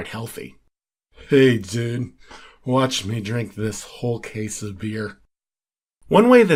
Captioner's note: drunkenly